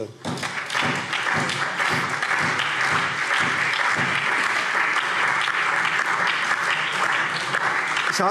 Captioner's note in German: Allgemeiner Beifall